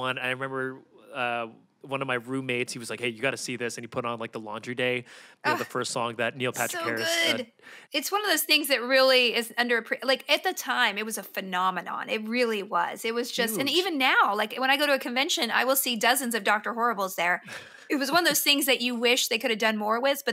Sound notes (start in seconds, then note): 17.5 laughs